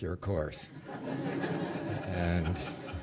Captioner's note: laughter